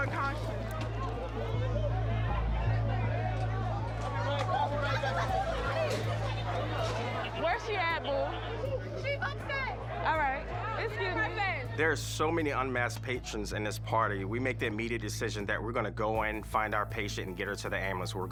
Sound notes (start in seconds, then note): 1.4 crowd clamoring